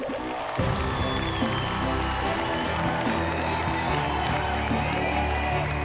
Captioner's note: cheers and applause